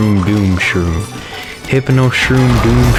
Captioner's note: inhales Oxygen